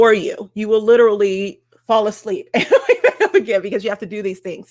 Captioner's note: laughing